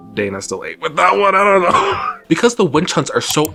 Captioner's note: laughs